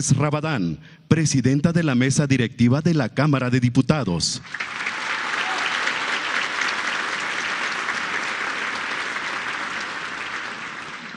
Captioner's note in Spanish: aplausos